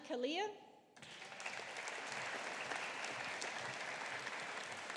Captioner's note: audience applauding